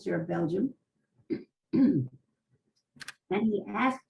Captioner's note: pauses for 3 seconds